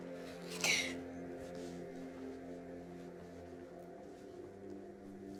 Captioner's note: crying